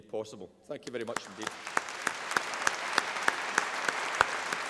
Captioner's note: applause